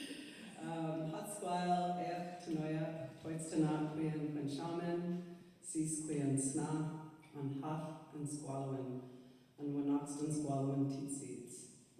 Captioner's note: laughter; begins welcome in Sḵwx̱wú7mesh sníchim